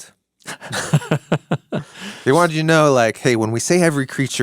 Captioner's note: person laughing